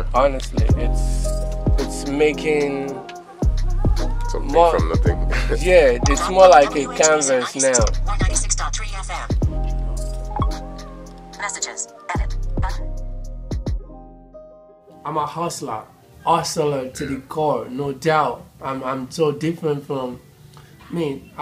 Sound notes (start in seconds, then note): 5.0 laughs; 8.4 automated Voice